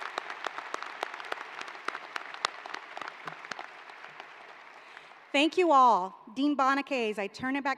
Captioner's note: applause